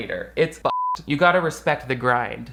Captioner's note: beep